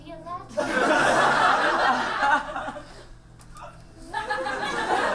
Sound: audience laughs

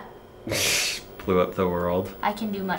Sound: laughs

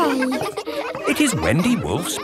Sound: kids laughing

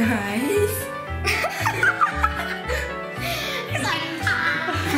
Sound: kids laugh

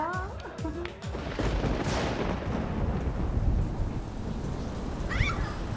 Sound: thundering

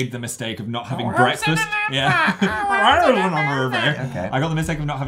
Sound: mocking voice

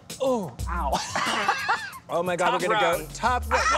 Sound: grunts

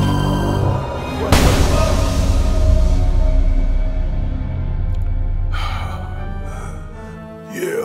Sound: suspenseful music; crash

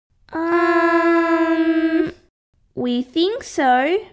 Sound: none

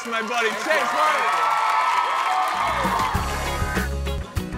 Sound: crowd cheers

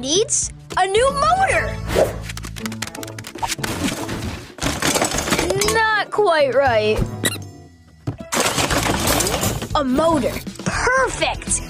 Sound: clanking

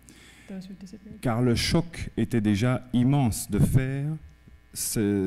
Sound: speaking french

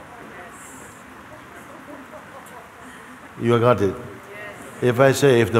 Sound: voices in audience

